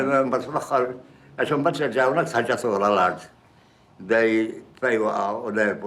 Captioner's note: speaks in foreign language